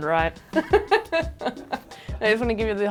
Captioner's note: laughing